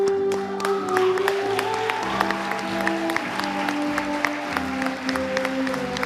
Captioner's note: audience applauding and cheering